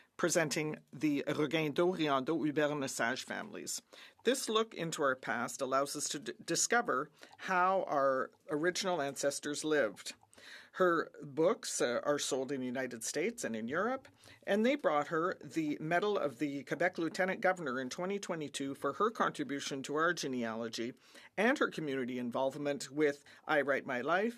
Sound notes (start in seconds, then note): 6.2 speaking French